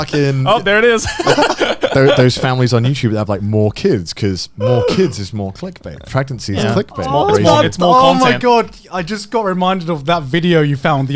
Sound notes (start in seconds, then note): 1.0 laughing loudly